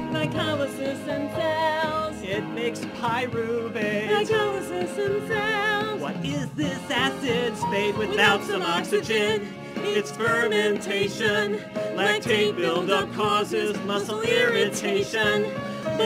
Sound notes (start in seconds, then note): none